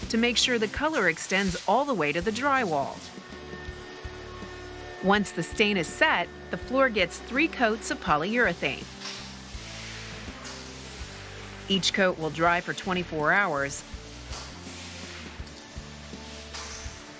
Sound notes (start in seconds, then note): 9.3 whooshing